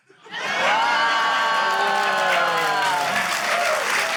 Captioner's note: cheering, applause